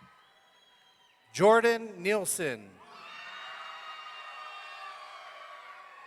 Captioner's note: audience cheering